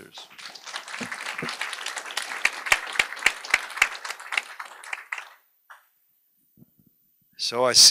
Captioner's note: applause